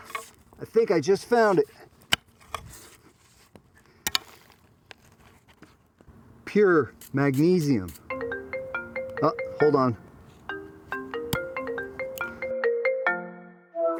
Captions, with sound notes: I think I just found it. Pure magnesium. (phone ringing) Hold on. (phone ringing)